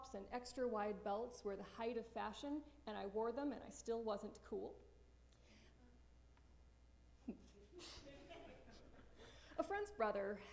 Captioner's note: laughter